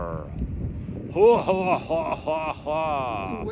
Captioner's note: laughing